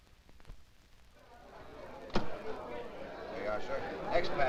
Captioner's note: all chattering